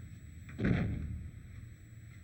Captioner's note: dull thud